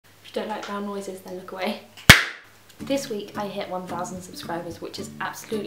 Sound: bang

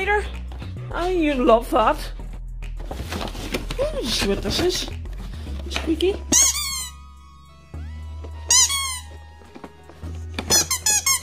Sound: toy squeaks

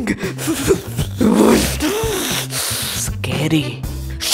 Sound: crying; primal noises

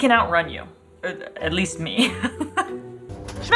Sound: laughs

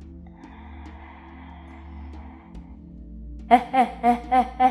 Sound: inhales

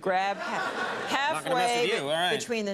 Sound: crowd laughing

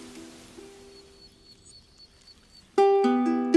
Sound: bird chirping

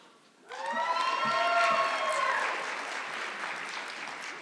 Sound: audience clapping

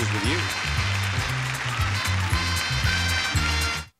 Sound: audience cheering

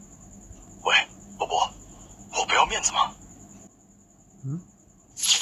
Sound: whispers

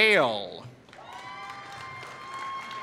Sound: applause

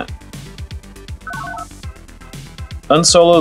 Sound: analog beeps

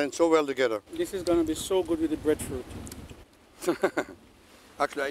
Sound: laughs

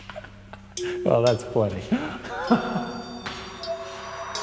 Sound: laughing

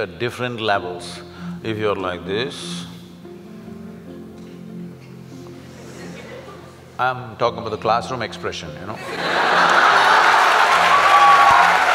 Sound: laughter & Applauds

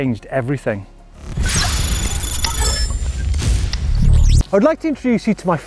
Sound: computerized lighten bolt glitching

